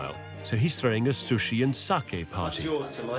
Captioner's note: foreign language